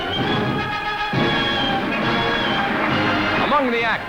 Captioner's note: applause